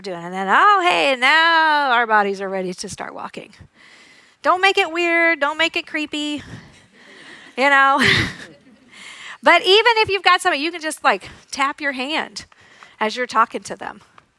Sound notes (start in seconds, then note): 7.0 audience laughs